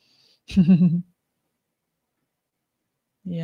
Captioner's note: laughs